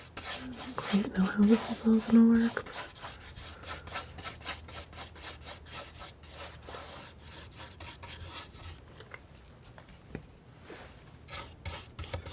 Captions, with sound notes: I don't quite know how this is all gonna work (scratching)